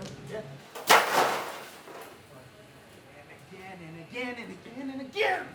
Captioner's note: crashing noise